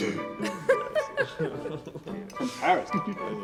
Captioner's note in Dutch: vrouw giechelt